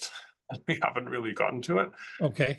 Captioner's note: laugh